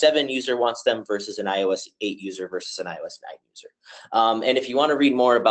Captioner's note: audio warps